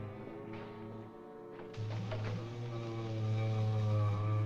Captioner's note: moaning